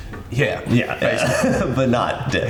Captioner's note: laughs